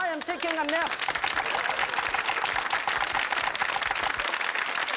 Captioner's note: audience clapping